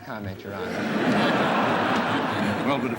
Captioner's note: laughter